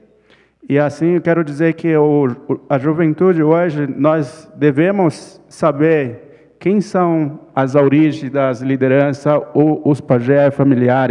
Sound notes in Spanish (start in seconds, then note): 2.7 ponente habla en portugués